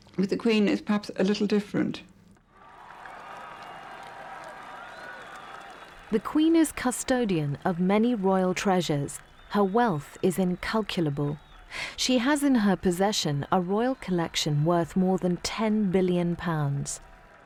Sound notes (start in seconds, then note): 2.6 crowd cheering loudly